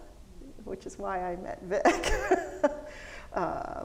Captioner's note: laughs